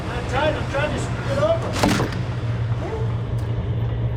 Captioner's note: crack